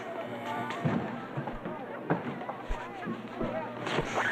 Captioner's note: mechanical thrumming